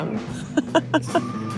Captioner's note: laughs